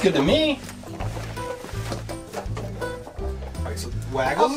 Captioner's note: poppits rustling